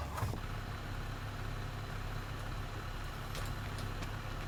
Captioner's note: car engine revving